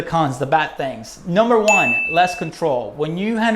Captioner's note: bell